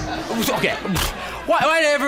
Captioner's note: pfft